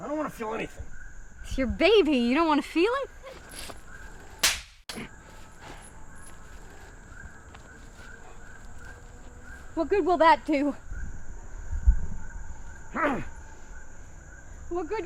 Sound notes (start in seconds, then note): 4.4 slap cracking; 6.1 animals whooping; 13.2 Dogmouth grunts angrily